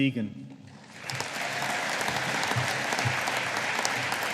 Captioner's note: audience applauding